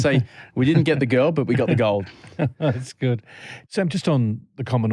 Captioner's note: laughter